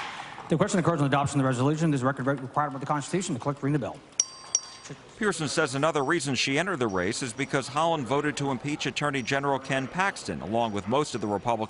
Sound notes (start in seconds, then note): 4.2 bell ringing